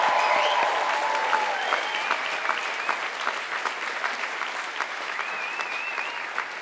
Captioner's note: applause